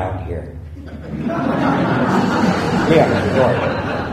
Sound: laughter

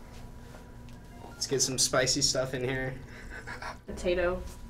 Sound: laughing

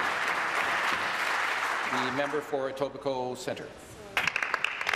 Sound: applause

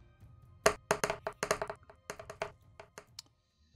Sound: dice rolling

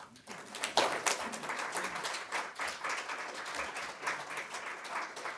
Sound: audience applauding

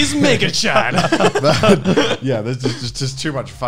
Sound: laughing

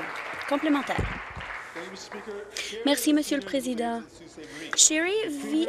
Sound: applause

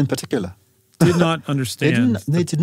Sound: laugh

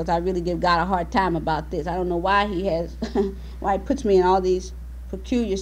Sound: laughs

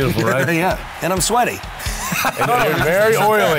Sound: laughs

